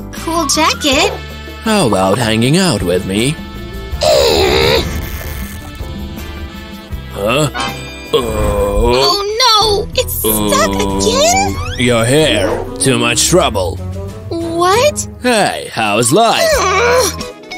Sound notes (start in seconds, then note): 10.2 grunting